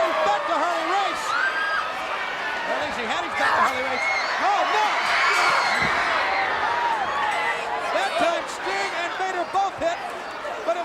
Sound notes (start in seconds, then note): 6.1 fans scream